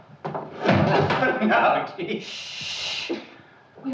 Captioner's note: laughing